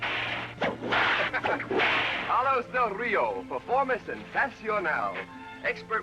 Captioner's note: laughs; spanish